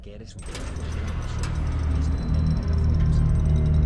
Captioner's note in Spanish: Portón abriéndose